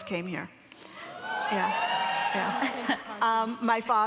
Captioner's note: audience cheering